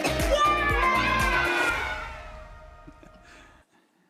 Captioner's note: kids cheering; chuckles